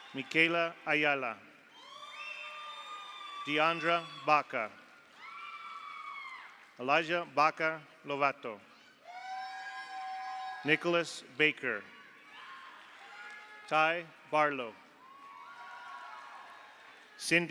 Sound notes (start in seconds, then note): 1.7 audience cheers; 1.8 audience applauds; 5.1 audience cheers; 8.8 audience applauds; 9.1 audience cheers; 12.2 audience applauds; 15.0 audience cheers